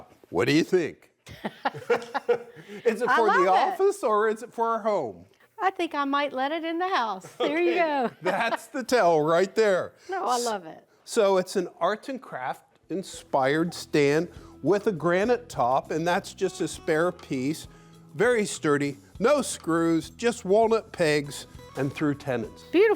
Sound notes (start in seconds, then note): 1.2 both laughing